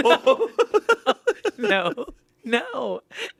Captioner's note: everyone laughs